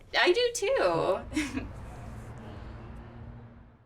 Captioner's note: laughs